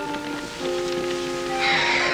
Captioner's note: sighs